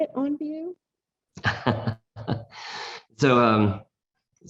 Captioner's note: laughs